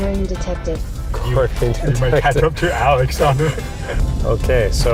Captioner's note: laughs